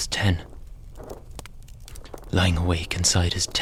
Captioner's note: sound of tent blowing in the wind and branch scraping on fabric